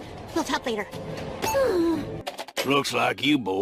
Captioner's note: sighs